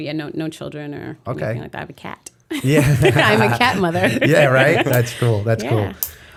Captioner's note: chuckle